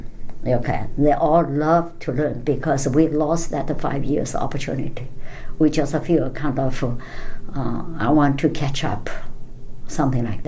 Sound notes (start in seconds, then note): none